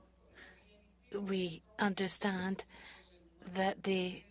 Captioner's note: speaking French